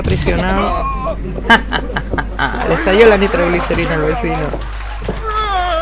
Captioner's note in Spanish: risas